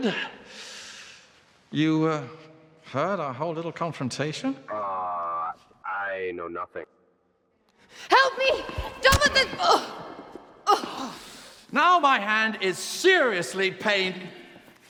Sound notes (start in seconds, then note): 8.7 hand slapping; 10.0 groaning